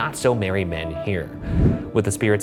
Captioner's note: image whooshes